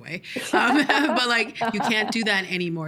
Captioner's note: both laughing